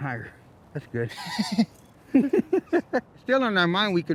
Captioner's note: laughter